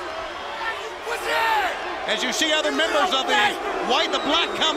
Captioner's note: crowd chatter